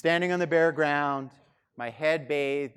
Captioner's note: none